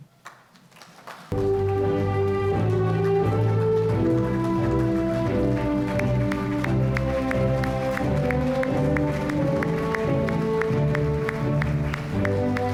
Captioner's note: applause